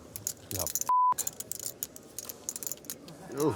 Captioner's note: beep